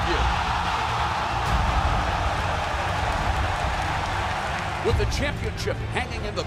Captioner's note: crowd cheering